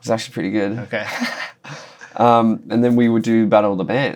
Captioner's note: laughter